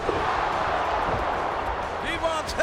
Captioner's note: crowd cheering